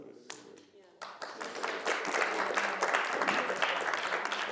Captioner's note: audience clapping